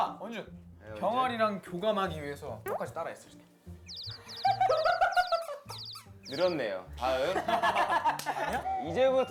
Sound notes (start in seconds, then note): 3.7 chirp chirp